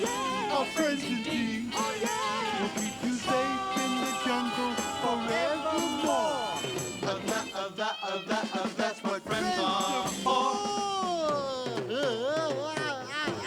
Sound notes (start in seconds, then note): 11.7 laughing